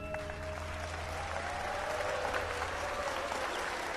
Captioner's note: audience applauding